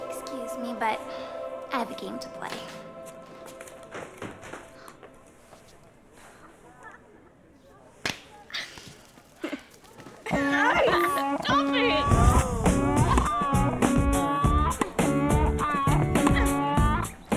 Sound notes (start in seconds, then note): 10.2 girls giggling; 11.9 upbeat rock music